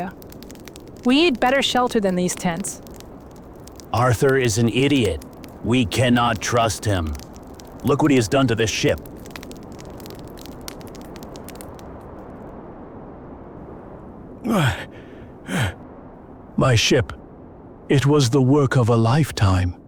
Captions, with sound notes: We need better shelter than these tents. Arthur is an idiot. We cannot trust him. Look what he has done to the ship. (Strong wind) My ship. It was the work of a lifetime.